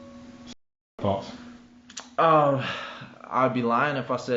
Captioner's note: sighs